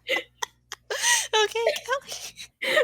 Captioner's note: laughing; continued laughter; wheeze